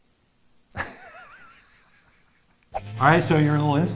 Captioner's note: laugh